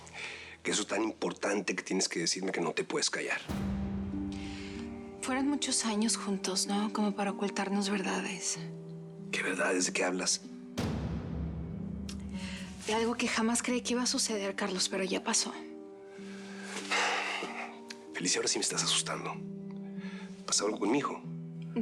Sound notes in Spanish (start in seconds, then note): 16.2 exhala